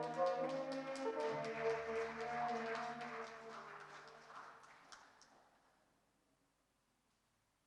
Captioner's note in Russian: аплодисменты